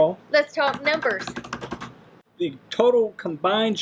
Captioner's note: hands drumming